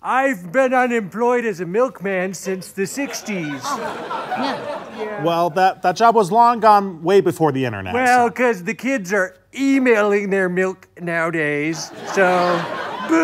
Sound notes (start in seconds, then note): 5.3 audience laughter